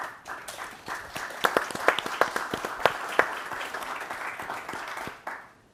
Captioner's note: attendees clapping